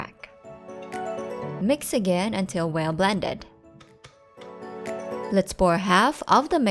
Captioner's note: spatula thuds on bowl